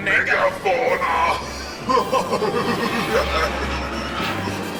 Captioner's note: cackles